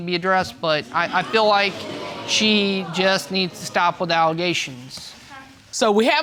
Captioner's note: audience exclaiming